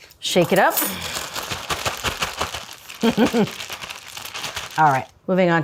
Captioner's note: Julia chuckles